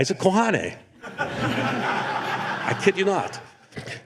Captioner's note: laughter